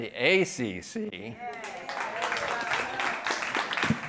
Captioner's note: applause